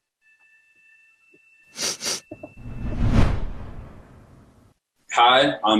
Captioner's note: sniffs